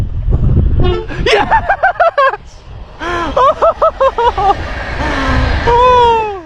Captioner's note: laughs